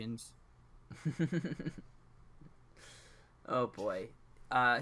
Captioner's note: giggles